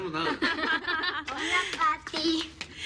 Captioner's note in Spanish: Risas